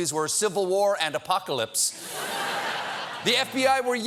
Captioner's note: laughter